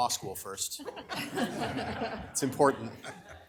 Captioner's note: audience laughs